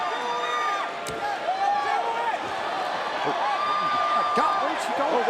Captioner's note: crowd shouts and cheers